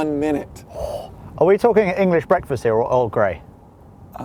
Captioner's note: gasp